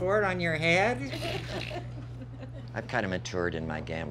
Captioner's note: laughing